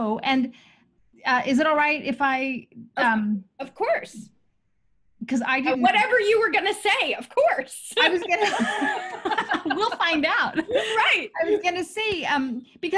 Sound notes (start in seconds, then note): 8.0 laughing loudly